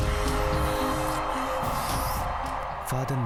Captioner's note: hissing and Biting Neck